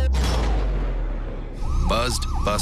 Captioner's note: sirens